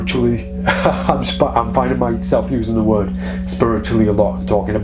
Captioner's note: laughing